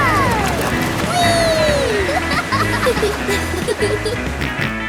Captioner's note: laughing